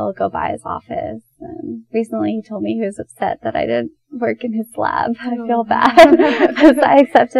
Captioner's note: both laugh